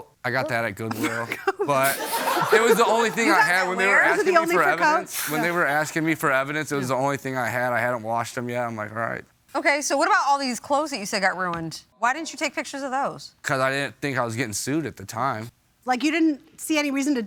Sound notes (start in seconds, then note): 0.3 laughing; 0.8 laughter